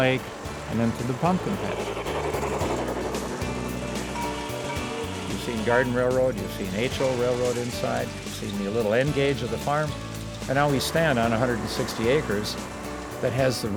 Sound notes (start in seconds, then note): 1.9 train chugging